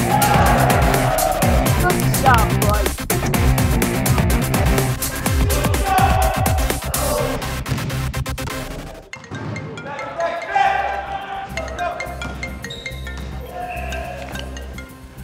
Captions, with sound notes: (players cheer) - Good job, boys. (upbeat rock music) (phone chimes)